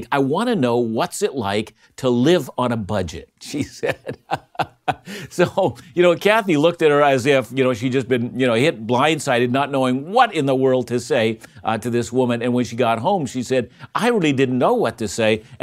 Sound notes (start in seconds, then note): 3.5 laughing